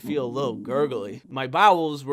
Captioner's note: stomach gurgling